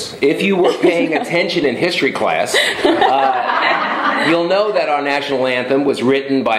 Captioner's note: laughter